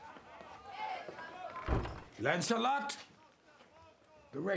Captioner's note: door shuts